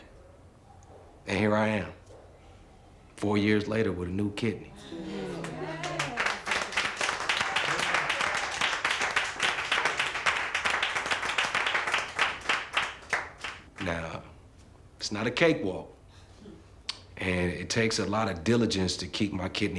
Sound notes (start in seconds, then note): 4.3 crowd cheering; 6.1 crowd clapping